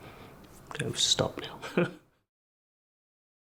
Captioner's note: laughs